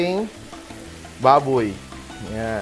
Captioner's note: sizzle